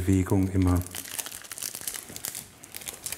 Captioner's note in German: Knistern